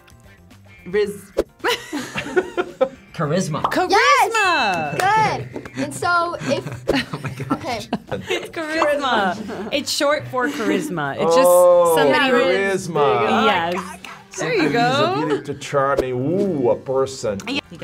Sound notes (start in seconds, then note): 1.6 chuckles; 1.6 laughs; 4.7 bell dings